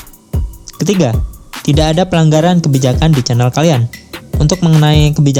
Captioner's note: I am reading in Bahasa